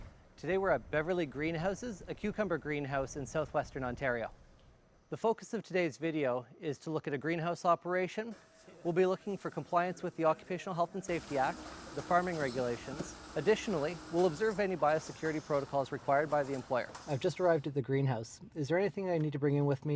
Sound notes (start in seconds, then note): 16.9 inside van, speaking on phone